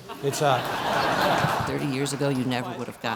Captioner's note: laughter